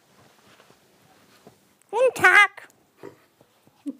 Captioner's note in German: mit hoher Stimme